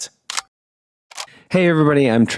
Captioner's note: camera clicking